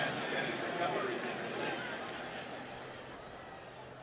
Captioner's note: pa announcement